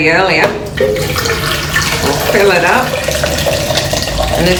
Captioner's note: water pouring